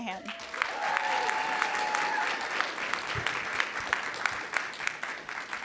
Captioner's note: audience cheering and applauding